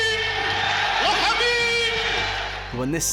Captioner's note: crowd cheering